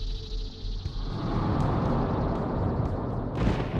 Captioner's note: whooshing; thunder claps